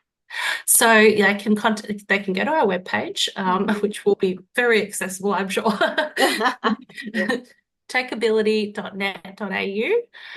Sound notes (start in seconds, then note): 5.7 both laugh